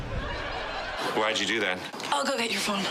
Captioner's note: audience laughs